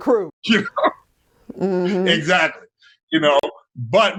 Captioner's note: laughs